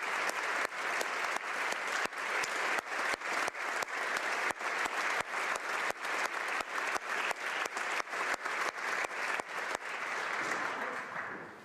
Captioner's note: applause